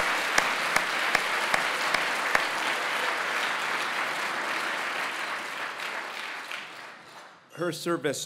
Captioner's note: applause